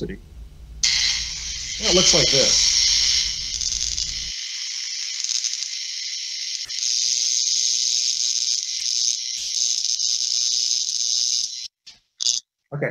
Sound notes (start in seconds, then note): 2.8 electrical Sounds